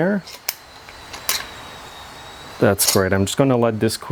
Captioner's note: screws clanging